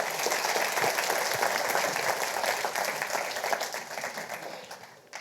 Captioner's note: audience applauding